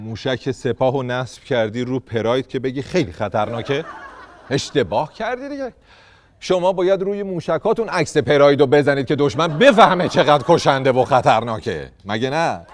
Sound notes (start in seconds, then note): 3.4 laughter